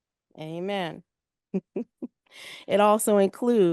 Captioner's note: chuckles